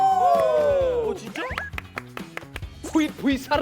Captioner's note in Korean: 물개박수